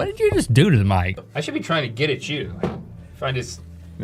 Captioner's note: clunk